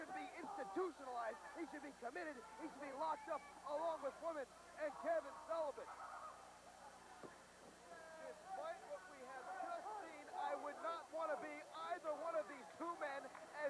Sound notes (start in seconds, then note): 7.1 crowd chatter